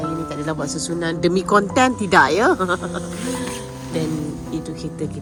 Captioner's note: laugh